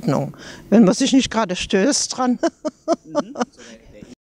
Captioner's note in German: lacht